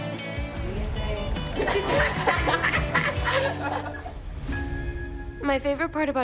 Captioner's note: all laughing